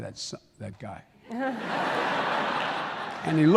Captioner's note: laughter